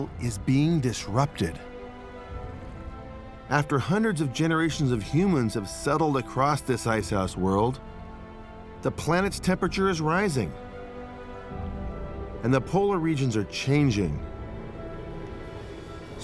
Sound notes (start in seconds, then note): none